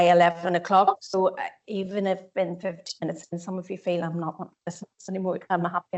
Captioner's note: audio distorts 01.33